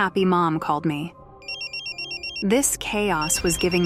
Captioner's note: phone ringing